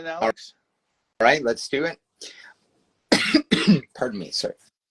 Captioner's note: coughs